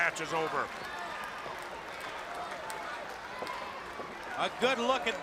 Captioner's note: crowd chatter